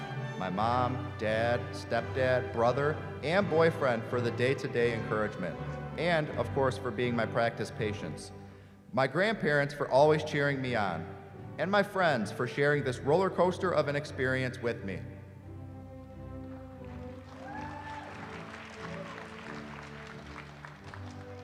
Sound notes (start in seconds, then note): 16.8 applause